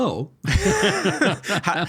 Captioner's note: both laughing